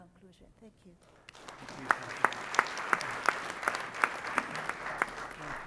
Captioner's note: audience applauds